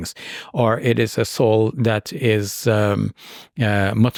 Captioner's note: speaks in Arabic